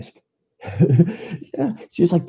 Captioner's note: laughs